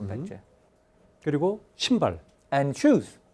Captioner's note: speaking in Korean